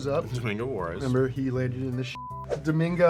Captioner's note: beep